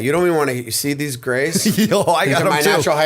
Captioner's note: laughter